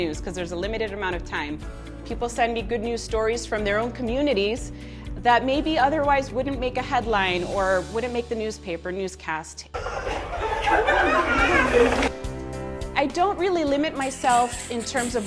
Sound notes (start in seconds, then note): 9.7 group laughing